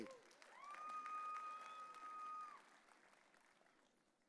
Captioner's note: audience cheering